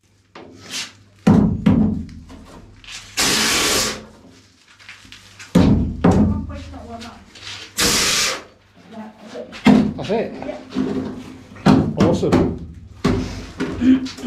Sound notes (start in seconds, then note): 1.2 banging; 5.0 sprayer/banging